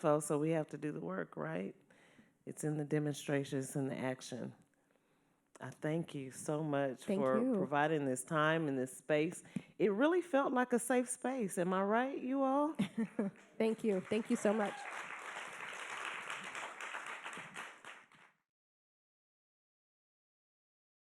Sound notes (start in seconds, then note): 13.7 audience applauding